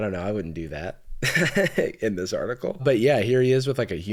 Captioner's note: laughs